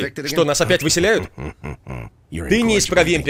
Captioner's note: raspy chuckling